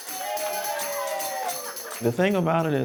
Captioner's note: all clamor